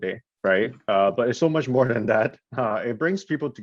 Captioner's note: chuckles